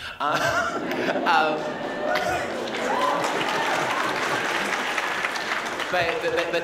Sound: laughing and applause

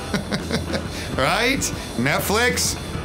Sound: laughs

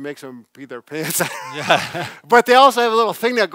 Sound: laughs

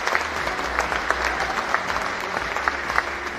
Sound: cheering and Applause

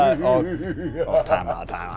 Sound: laughing

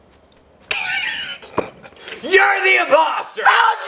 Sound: laughs out loud

